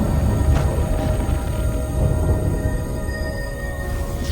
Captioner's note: thunder rumbling